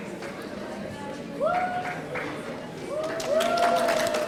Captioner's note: audience cheering; audience applauding